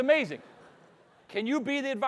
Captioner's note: audience laughing